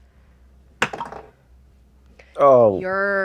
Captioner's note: dice clatter